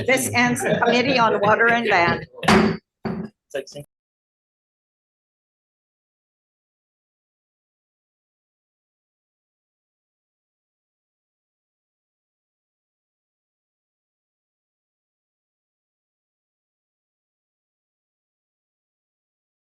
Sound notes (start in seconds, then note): 2.4 gavel thuds